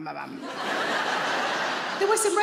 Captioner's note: audience laughs